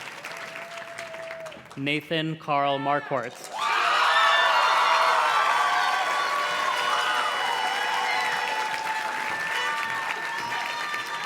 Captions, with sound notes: Nathan Carl Marquart. (audience cheers and claps) (party horn blows)